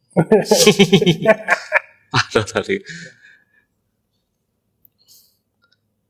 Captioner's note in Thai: เสียงหัวเราะ